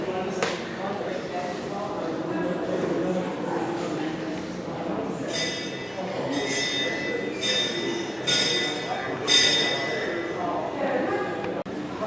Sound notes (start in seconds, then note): 6.3 bell ringing